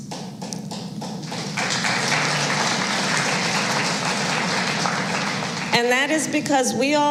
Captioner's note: applause